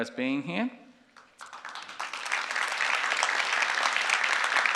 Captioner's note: audience applauding